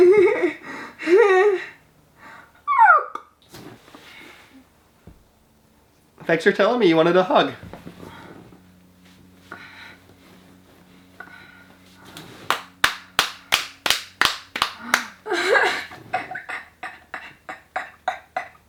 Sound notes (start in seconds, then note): 12.4 both clapping; 14.8 laughing